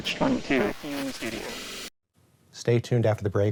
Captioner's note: transmission garbles eldritchly